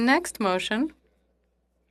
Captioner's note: speaking in French